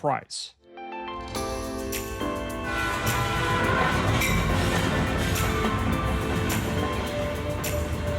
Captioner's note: gentle music; train horn